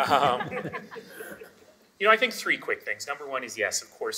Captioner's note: all laughing